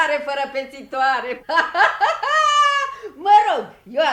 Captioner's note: laughs